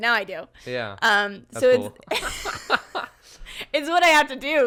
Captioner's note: both laughing